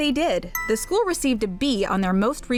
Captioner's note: bell dings